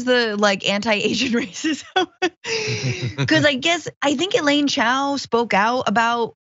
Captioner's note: laugh